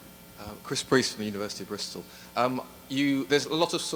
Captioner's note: voiceover